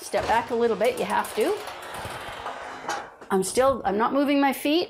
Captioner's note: door creaking